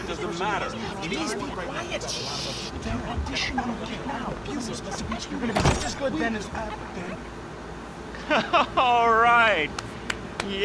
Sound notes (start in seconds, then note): 0.7 people whisper arguing